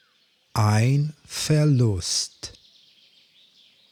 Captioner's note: german